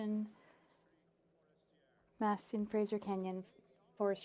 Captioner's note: speaking French